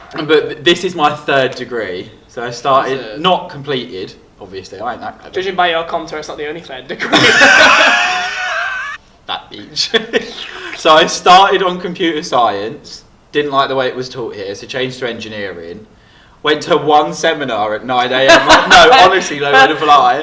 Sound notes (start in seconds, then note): 7.1 laughing; 7.1 laughs; 9.7 makes a weird sucking noise again; 18.2 laughs